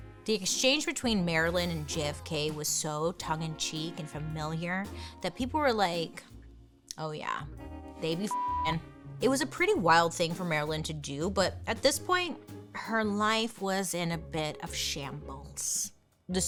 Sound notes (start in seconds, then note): 8.2 beep